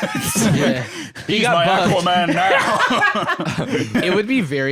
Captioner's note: laughs